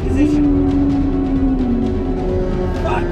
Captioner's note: creature roaring